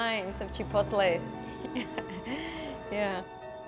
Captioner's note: laughing